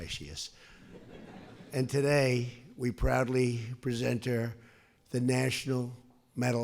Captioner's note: laughter